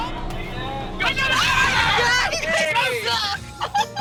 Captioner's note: screams